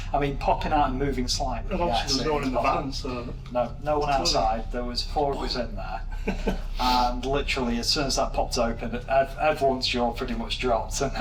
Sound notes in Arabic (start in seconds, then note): 6.0 يضحك